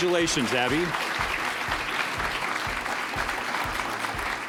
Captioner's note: applause